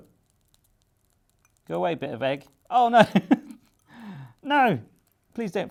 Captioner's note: laughs